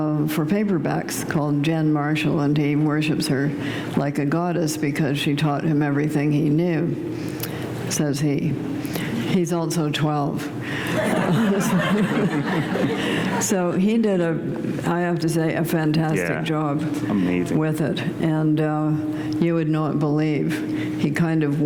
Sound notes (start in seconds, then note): 10.8 laughter